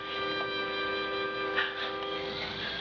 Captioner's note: laughs